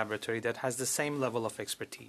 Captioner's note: speaking French